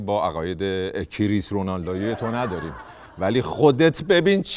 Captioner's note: laughter